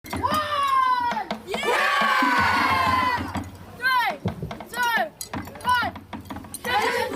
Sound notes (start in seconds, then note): 1.4 war Cry